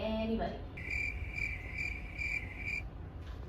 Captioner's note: crickets